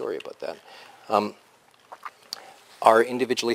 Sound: pause

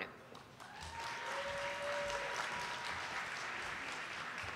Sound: audience applauding

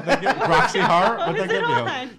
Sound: laughs

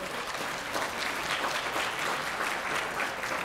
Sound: applause

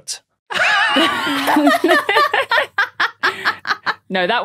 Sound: guests laughing

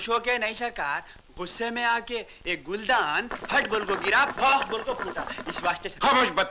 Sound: hookah gurgles

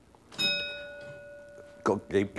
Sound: ding

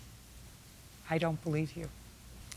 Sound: normal voice

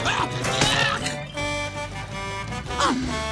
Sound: yelling; truck horn honking

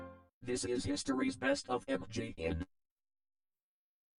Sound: with computer-generated voice

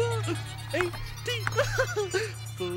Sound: laughing

